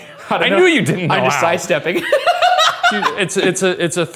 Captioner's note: laughing